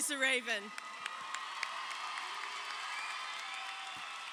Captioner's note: crowd cheering